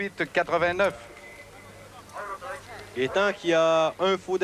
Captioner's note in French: coup de sifflet